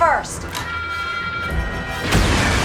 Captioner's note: lock-on system beeping; missile whooshing